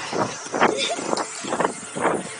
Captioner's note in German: Kichern